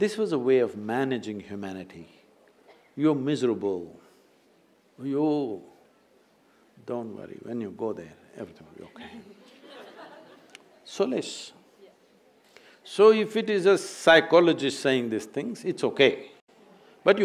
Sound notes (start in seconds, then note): 8.8 few laugh